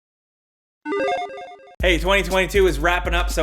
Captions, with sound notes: (retro video game sound effect) - Hey, 2022 is wrapping up,